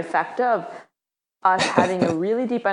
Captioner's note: laughing